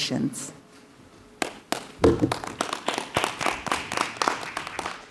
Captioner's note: clapping